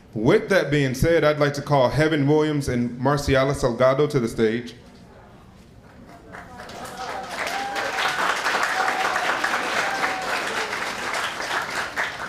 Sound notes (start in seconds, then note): 5.9 applauding